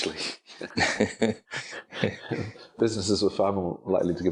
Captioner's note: laughing